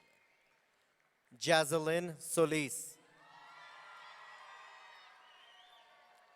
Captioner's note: audience cheering